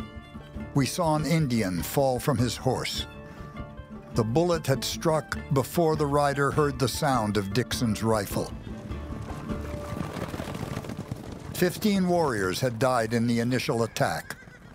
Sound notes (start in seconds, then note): 8.7 galloping hoofbeats